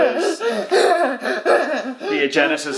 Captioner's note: whimpering